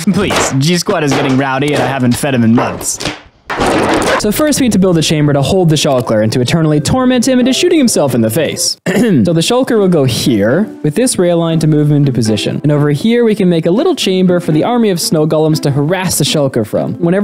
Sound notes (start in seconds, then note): 8.8 ahem